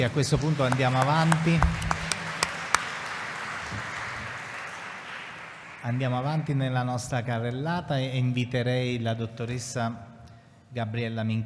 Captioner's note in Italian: Applauso